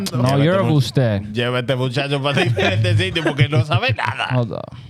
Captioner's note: speaking In Foreign Language